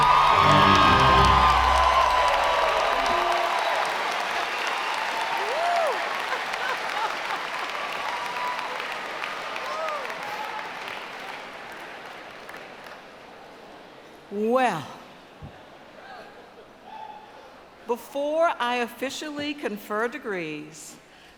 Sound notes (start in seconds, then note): 3.9 applause